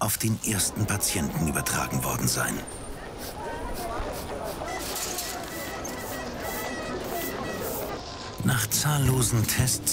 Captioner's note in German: Marktgeräusche